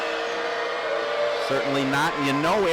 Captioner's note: crowd boos